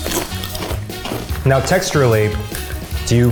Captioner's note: crunching